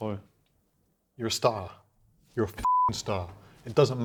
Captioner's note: beep